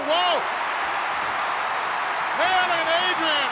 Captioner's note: crowd cheering